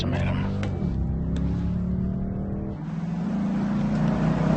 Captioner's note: engine revving